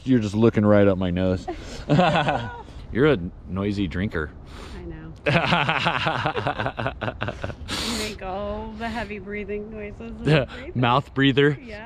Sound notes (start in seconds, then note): 1.3 laughs; 5.2 laughs